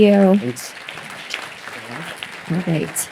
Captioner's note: applause